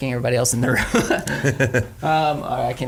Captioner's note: chuckles